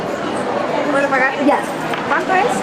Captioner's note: in Spanish